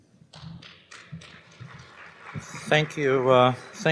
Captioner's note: applause